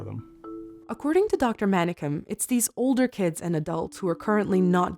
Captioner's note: voiceover